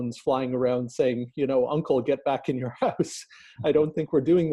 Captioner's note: laughing